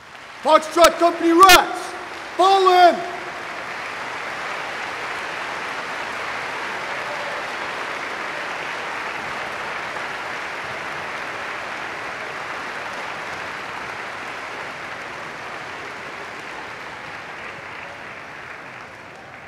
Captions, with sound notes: Foxtrot Company rats, fall in! [APPLAUSE]